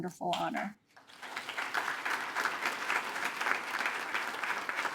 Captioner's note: attendees applaud